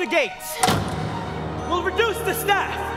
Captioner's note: door slams